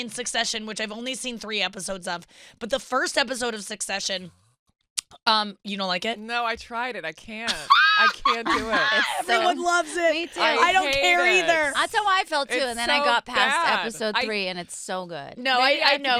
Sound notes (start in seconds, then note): 7.5 laughing